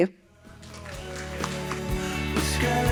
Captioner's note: audience applauding